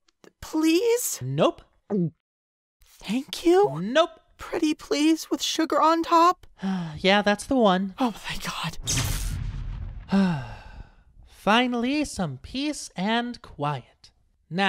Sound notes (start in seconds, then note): 2.2 pinkie gulps; 6.6 celestia sighs; 10.0 celestia sighs